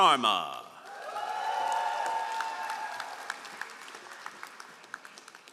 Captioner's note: all applauding